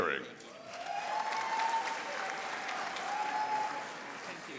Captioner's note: audience applauding